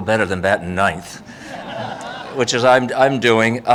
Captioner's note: audience laughing